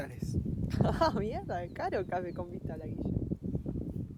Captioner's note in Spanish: risas